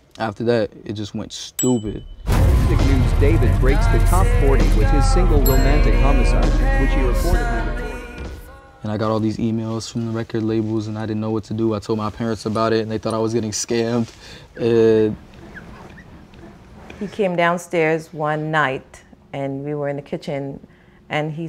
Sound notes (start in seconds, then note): 7.2 voice fades; 14.6 laughing